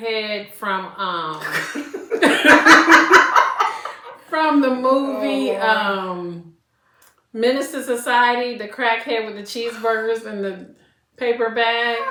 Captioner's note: laughter